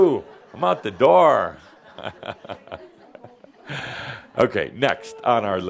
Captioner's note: some giggles and chuckles